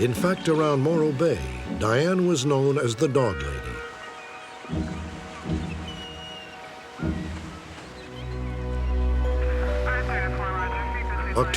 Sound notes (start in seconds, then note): 4.4 seagulls chirping; 9.9 police scanner sounds